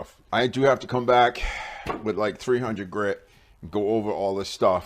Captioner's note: sigh